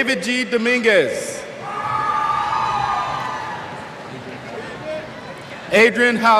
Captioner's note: cheers